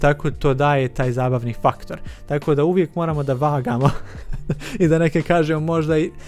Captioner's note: laughs